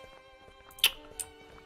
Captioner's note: lip smack